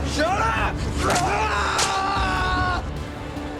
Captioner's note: Murrell screams